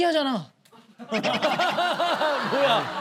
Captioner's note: laughing